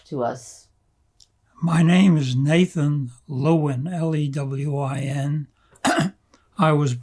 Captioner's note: clears throat